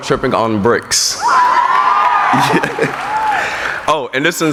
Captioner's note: cheering